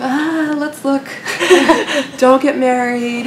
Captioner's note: laughter